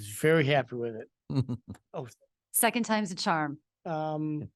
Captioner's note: laughs